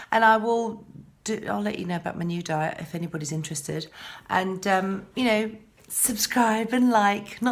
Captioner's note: none